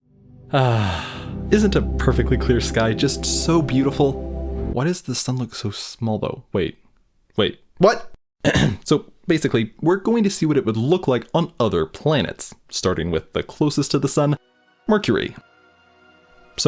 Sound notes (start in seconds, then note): 8.4 clears throat